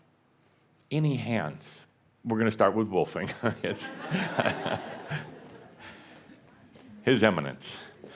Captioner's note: some laughter